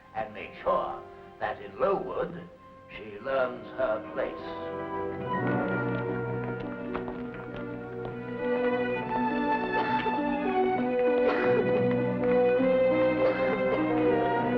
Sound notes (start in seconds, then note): 4.2 dramatic ominous music; 5.0 feet plodding; 11.2 girl coughs; 14.3 dramatic ominous music; 14.3 wind blowing